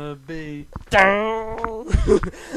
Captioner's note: mimicks guitar